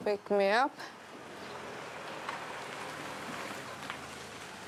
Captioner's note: car approaches